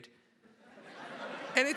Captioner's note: laughter